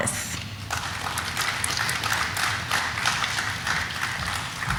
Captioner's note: audience applauding